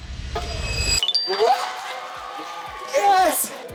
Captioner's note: cheering